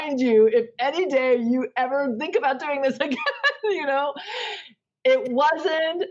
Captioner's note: laughs